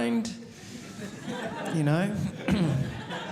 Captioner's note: audience laughing